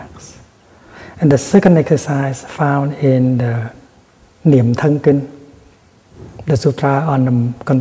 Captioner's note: Vietnamese